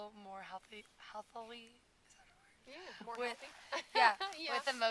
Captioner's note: laughing